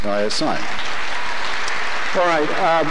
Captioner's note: applause